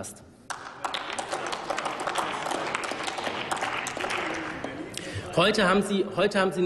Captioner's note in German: Applaus